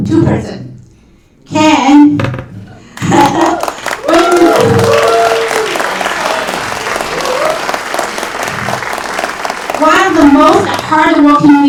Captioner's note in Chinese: 掌声